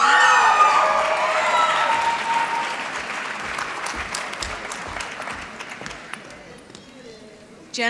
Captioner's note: applause